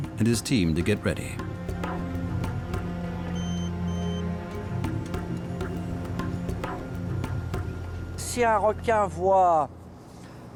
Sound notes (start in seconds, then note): 3.3 device beeps; 8.1 speaking French